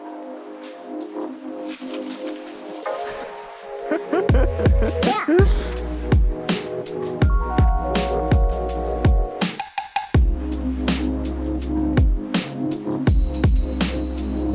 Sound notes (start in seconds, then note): 3.8 laughing